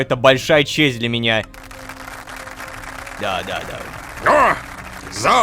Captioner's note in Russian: Аплодисменты